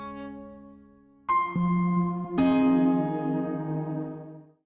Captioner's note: chime